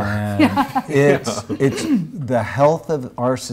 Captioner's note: laughs